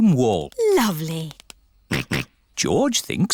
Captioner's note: snorts